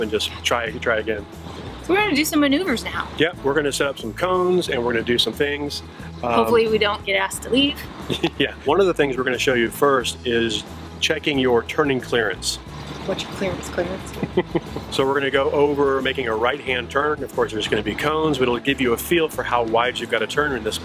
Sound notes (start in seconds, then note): 14.1 chuckles